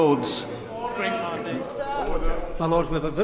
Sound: crowd

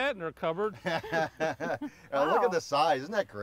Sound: chuckles

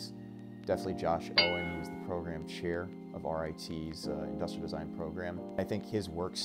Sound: ding

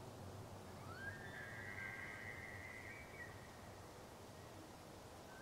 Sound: elk screeches

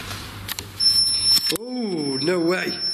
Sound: beeping

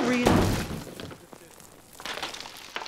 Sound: crash

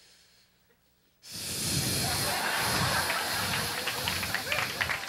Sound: repeatedly blows into microphone

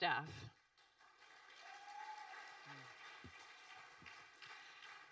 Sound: audience applauding

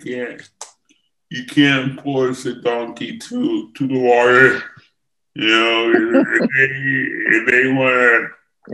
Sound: laughs

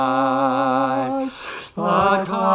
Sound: collective gasp

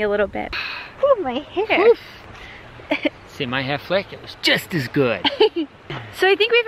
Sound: laughs

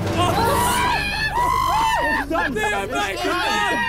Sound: suspenseful instrumental music; players shriek

